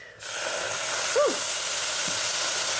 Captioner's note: loud sizzle